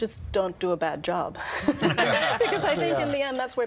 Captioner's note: all laughing